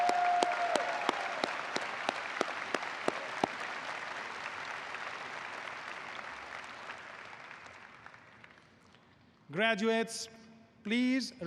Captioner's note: applause